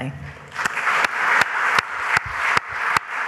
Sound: applause

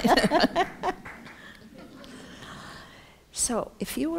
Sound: laughter

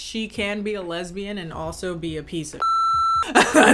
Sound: beep

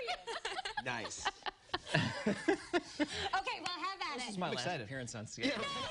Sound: laughter

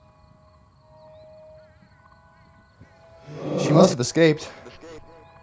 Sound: panting

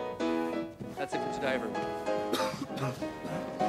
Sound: coughs

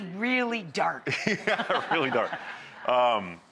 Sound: laughs

